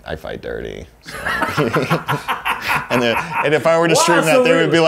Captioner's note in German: beide lachen